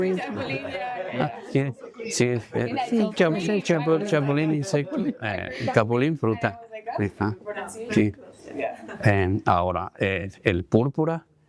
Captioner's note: speaking spanish